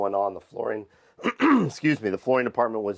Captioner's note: throat clears